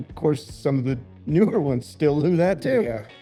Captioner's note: laughs